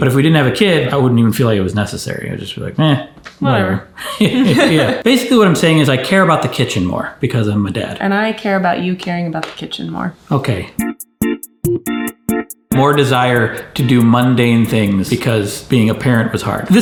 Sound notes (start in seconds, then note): 4.1 both laugh; 10.8 upbeat music